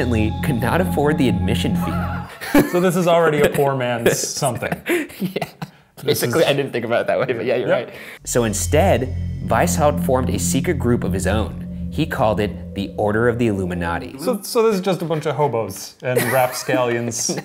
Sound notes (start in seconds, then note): 2.2 laughter